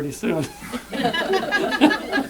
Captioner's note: laughter